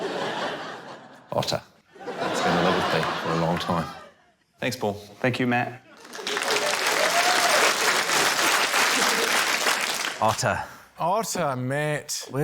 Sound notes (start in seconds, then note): 0.0 laughter; 6.0 applause